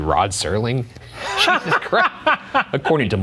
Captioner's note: laughing